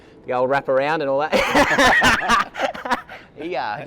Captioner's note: both laughing